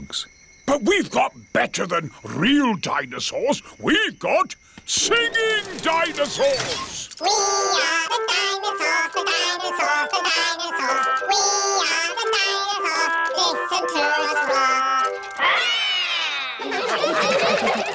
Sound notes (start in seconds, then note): 15.3 all roar; 16.2 all laughing